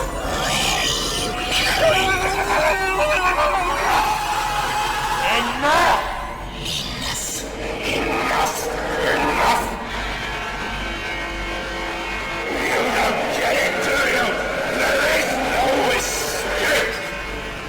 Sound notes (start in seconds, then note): 2.0 Young Wanderer screaming